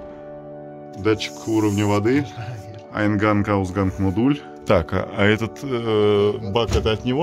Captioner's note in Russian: говорит по-немецки